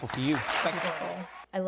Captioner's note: audience cheers and claps